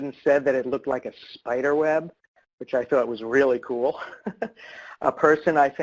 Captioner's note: laughs